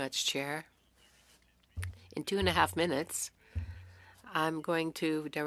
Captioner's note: speaking French